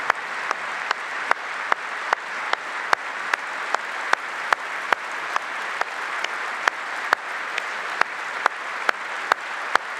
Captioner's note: applause